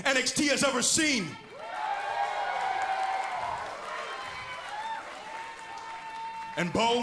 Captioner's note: crowd cheering